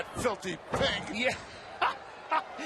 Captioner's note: laugh